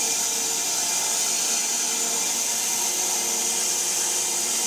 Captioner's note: saw buzzing